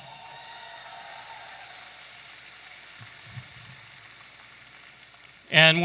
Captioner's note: audience applauding and cheering